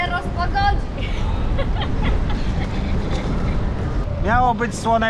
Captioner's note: laughter